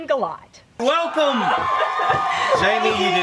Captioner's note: cheering in background